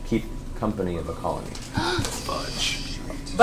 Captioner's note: gasps